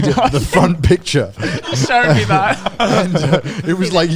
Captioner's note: all laughing